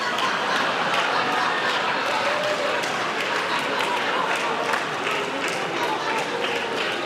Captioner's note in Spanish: aplausos